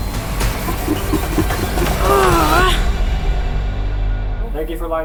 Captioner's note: grunting